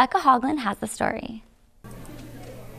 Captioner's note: background talking